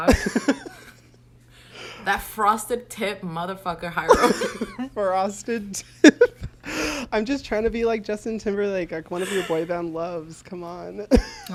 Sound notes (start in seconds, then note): 0.0 laughs; 4.0 laughs